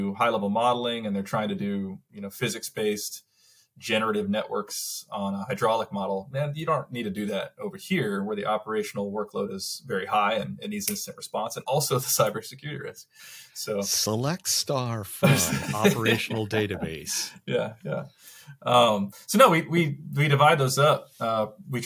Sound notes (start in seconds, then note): 17.0 laughs